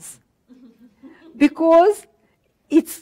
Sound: audience laughter

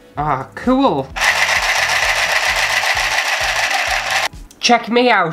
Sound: sewing Machine Motor

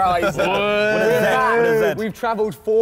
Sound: all cheering

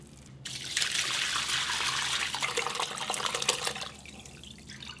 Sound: pouring

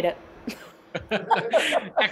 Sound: laughter

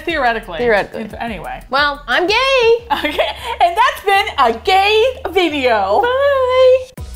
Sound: cheerfully; laughs; singsong

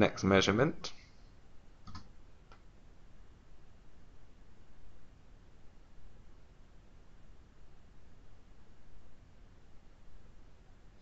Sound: silence during measurement

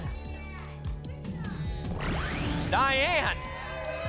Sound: audience shouting names; applause and cheering

